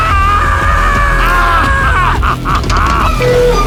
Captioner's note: manaical laughter